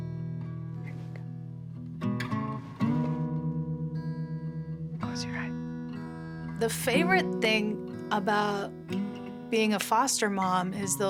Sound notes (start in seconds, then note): 1.3 whispers